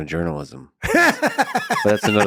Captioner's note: laughs